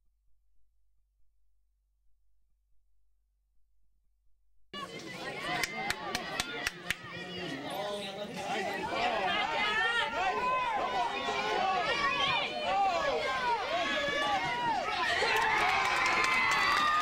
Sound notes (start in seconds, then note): 12.4 cheers; 15.9 crowd Cheers